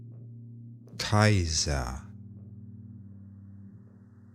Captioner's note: german